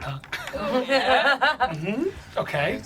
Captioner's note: group laughs